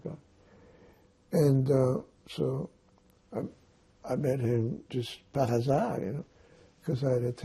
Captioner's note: non-english